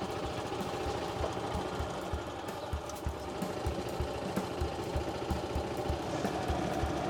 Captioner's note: birds, golf cart engine